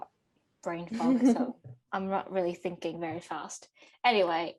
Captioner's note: laughs